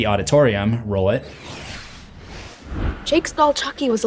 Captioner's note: text swooshes